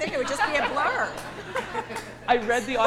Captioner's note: audience laughs